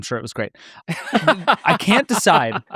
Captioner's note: laughs